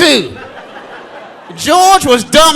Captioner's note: audience laughing